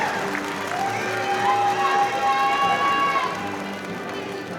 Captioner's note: audience cheering; audience applauding